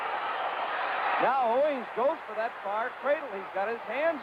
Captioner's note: announcer's voice